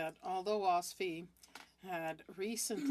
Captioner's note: speaking French